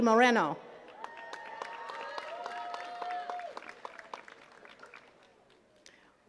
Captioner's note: attendees cheering and clapping